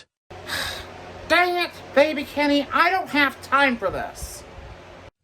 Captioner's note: sighs